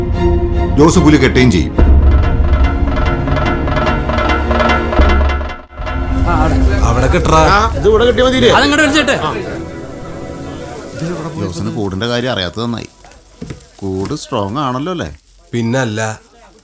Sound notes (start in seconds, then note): 11.6 indistinct chatters